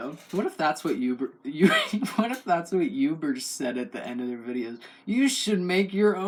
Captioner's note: laugh